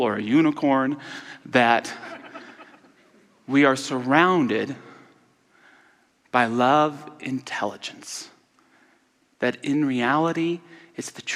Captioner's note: audience laughter